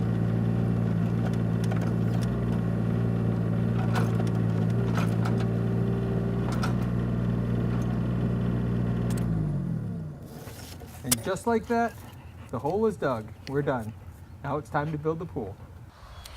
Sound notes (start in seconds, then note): 3.3 construction noise